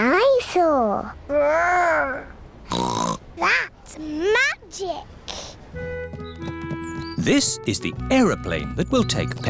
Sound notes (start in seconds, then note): 2.7 snorts